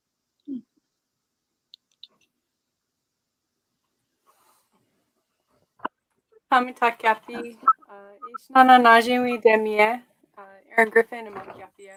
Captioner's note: speaking Dakota